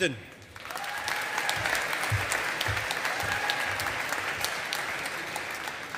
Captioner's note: audience applauding